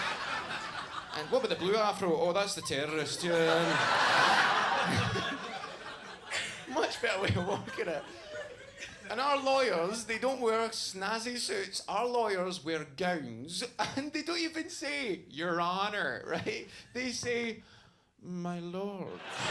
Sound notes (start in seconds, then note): 4.9 audience laughs